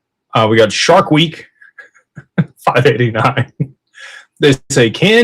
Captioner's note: laughter